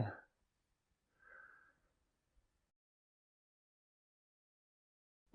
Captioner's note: DEEP, cleansing breath